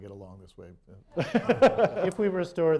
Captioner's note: laughter